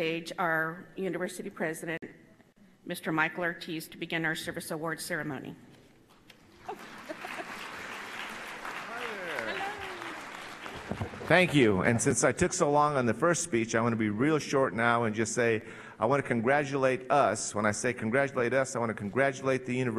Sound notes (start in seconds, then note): 6.5 applause